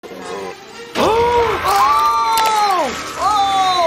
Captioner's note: both gasp and scream